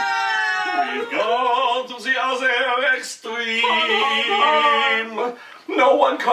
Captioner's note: hon hon hon